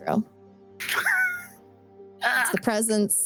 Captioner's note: laughs